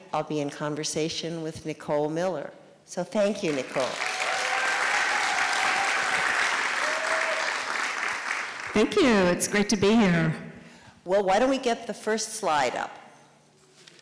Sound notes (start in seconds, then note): 4.7 sound of audience clapping